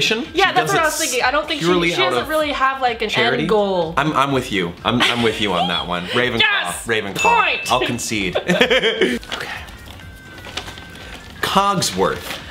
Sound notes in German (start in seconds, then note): 4.9 lacht; 7.4 kichert